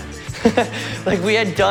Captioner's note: laughs